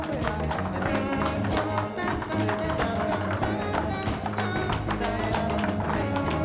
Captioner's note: light jazz music; rhythmic tapping